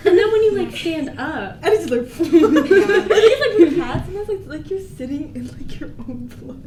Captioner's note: giggles